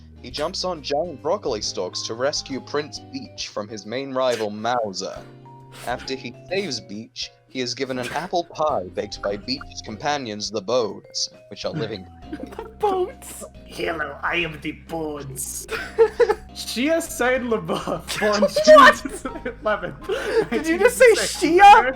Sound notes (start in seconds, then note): 15.6 laughter